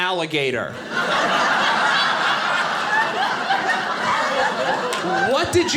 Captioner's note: audience laughing